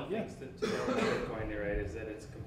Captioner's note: student coughs